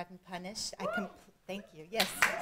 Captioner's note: cheering